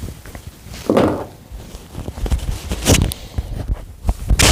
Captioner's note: mic rumble